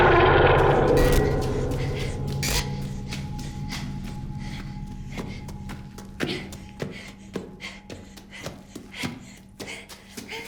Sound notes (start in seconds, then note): 2.7 Jo breathing hard